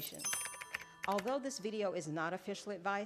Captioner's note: bell chiming